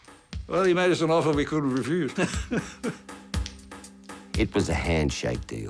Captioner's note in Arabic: يضحك